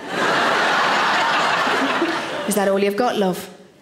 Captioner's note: audience laughing